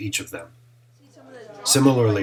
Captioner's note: chatter